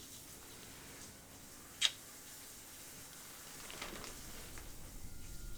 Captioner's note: kiss smacking